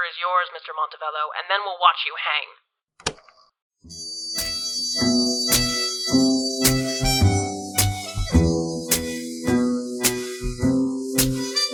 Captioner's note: the recorder clicks; outro music fading